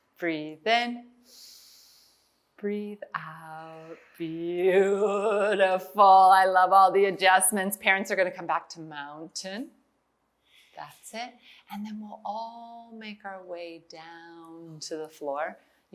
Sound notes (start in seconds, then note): 0.0 exhales; 1.3 inhales